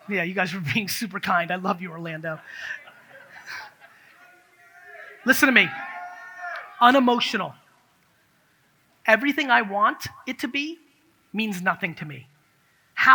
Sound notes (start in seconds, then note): 3.2 audience cheers